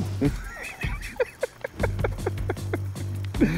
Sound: laughs

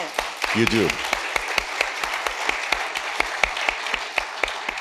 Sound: audience applauding

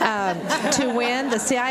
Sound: audience laughs

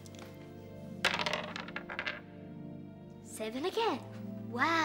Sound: dice clattering

